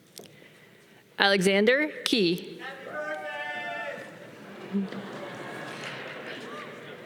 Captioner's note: audience applause